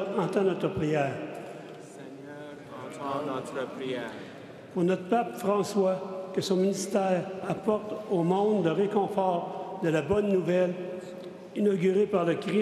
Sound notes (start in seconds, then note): 2.5 speaking French